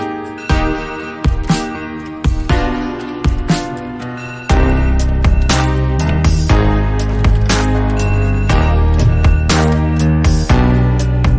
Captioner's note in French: Alarme